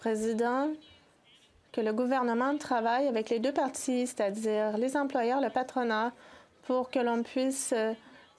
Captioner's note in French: voix de l'interprète